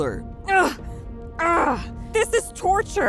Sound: grunting

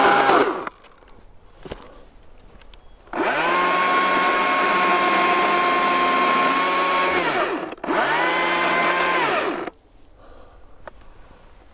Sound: chainsaw

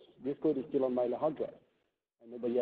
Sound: none

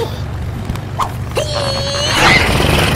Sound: straining

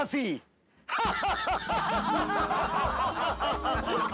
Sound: laughing

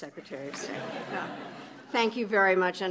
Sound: laughter

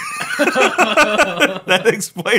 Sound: laughing

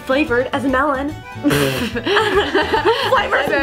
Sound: blows raspberry

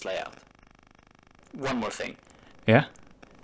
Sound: distorted voice

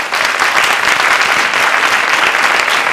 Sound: applause

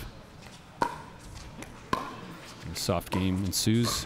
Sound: ball bouncing

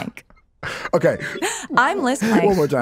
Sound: laughs

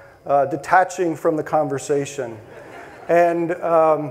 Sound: audience laughing

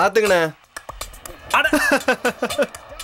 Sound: laughs

